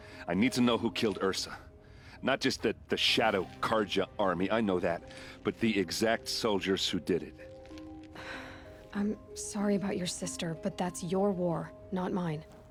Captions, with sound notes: I need to know who killed Ersa. Not just the... ...the Shadow Carja army, I know that... ...but the exact soldiers who did it. (sigh) I'm... ...sorry about your sister, but that's your war... ...not mine.